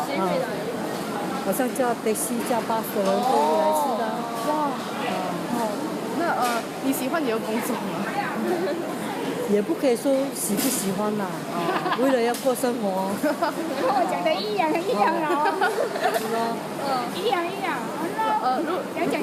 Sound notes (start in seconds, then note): 10.6 laughs; 14.6 laughs; 15.0 laughter continues